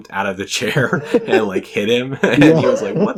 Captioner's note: laughs